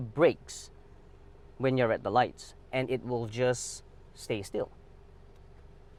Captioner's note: traffic